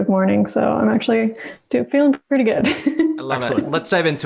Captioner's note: laughs